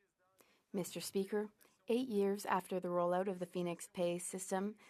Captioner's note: speaking French